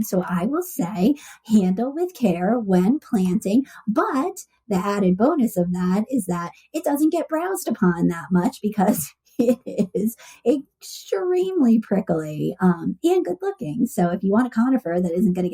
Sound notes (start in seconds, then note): 9.4 laughs